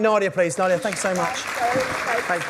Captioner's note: applause drowns out speaker; crowd applauds